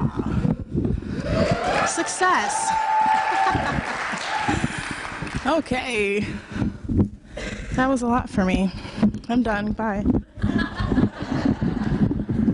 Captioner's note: applause